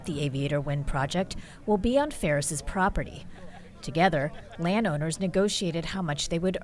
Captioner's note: laughs